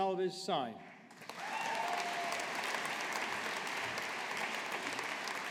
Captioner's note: audience applauding